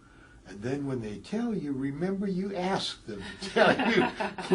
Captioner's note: laugh